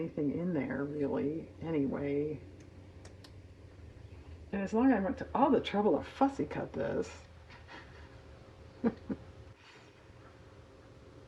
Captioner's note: laughs